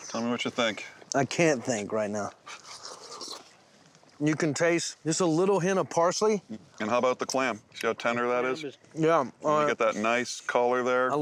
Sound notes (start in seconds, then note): 2.3 slurping